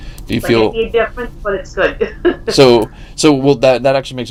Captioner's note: laughs